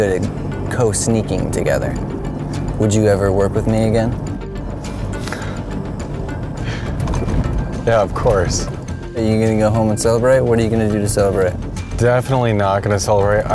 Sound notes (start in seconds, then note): 5.5 chuckling